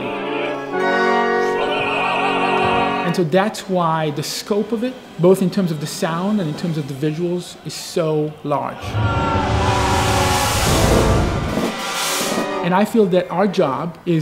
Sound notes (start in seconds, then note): 8.7 screams; 10.5 explosion